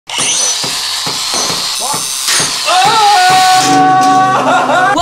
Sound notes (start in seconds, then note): 0.0 drill whirring; 1.0 banging; 2.6 man screams